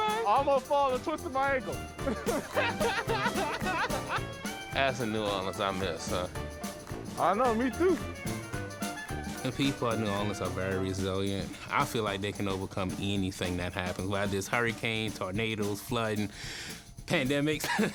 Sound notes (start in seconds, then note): 2.0 laughing; 17.6 laughs